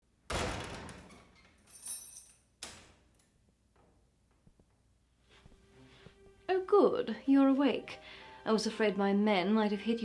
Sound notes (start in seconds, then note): 0.1 dramatic music; 0.3 door creaking